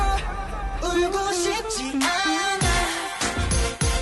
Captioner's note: hums